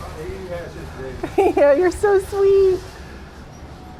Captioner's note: laughing